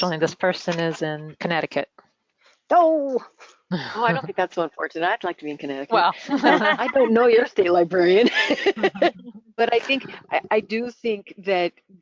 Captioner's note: laughter